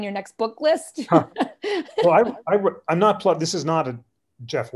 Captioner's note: laughter